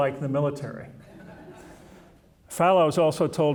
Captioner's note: audience chuckling